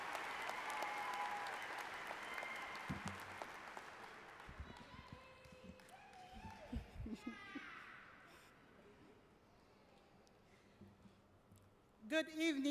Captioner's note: applause